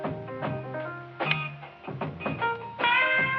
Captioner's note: switch clicks